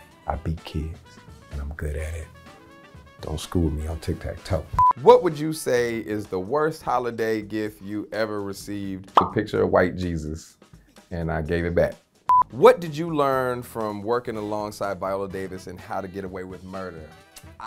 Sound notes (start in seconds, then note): 4.8 screen beeping; 9.1 suction cup popping effect; 12.3 screen beeping